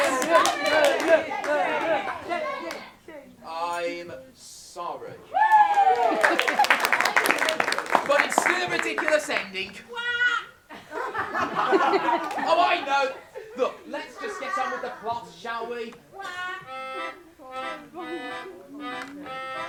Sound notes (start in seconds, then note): 0.0 AUDIENCE STARTS CHANTING "Say it! Say it!"; 5.3 audience cheering & applause